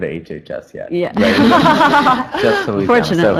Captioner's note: laughter